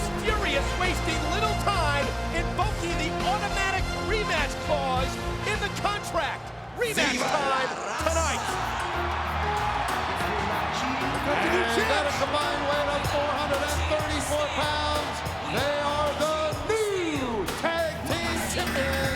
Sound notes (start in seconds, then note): 7.8 audience cheering; 7.8 upbeat music